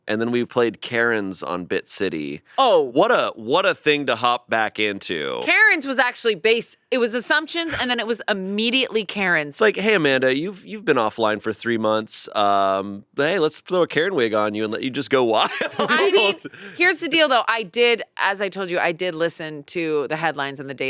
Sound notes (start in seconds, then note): 15.4 laughing